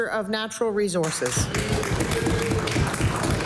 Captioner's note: applause